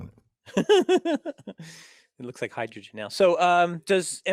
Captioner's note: laugh